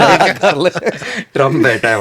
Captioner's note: laughs